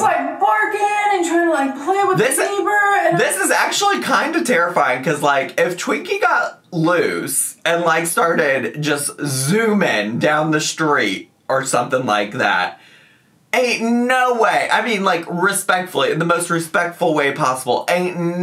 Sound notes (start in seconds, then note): none